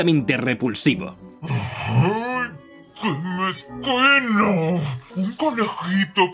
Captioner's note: grumbles